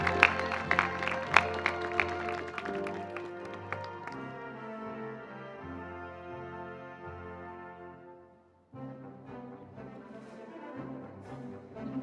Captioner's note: cheers and Applause